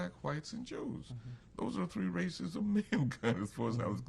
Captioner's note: laughs